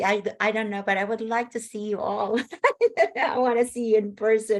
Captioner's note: laughs